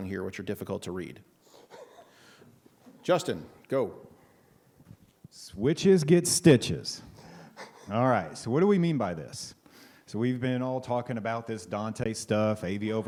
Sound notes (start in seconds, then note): 1.5 laughs